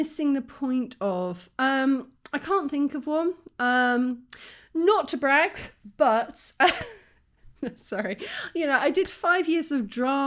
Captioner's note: laughing